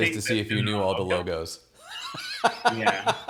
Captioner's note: laughs